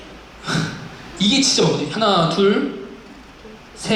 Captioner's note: scoffs